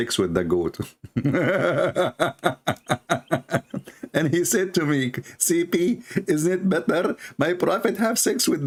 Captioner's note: Ketawa